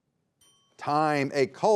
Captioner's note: bell dinging